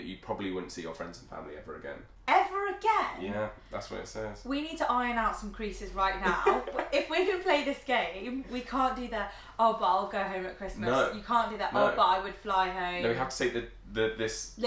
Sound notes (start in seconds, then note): 6.2 laughing